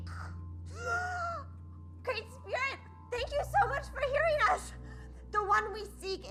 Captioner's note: gasping